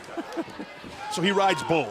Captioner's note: laughter